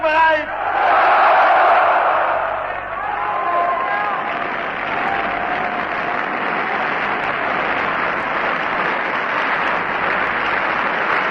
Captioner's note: screams: "Yes", Applause